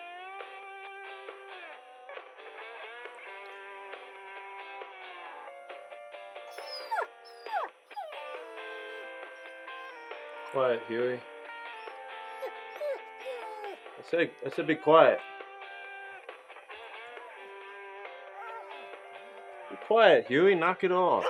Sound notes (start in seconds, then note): 7.2 squeaking